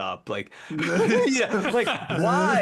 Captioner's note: both Laughing